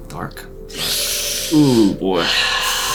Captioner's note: takes deep breath